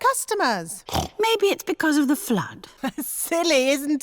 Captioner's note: snorts; laughs